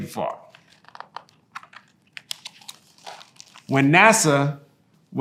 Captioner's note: pages rustling